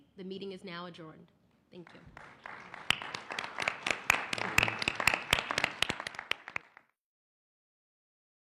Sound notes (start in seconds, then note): 1.8 applause